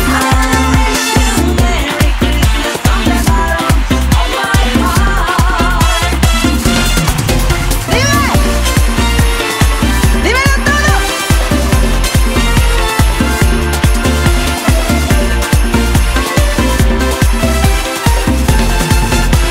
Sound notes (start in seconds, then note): 8.1 vocalist speaking in Spanish; 12.7 upbeat festive music